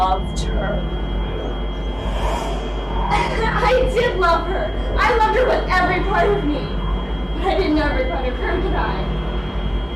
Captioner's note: whoosh sound